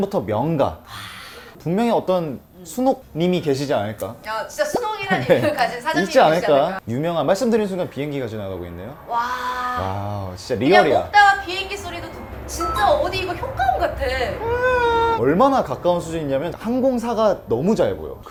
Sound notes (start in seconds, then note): 14.6 engine sound effect